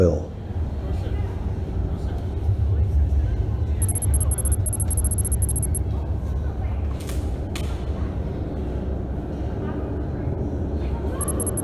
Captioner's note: people Talking